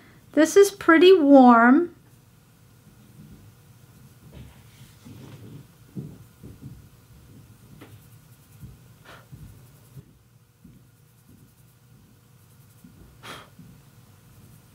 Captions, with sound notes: This is pretty warm. [silence]